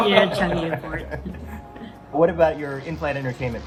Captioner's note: all laugh